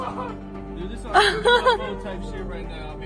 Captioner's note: ženský smích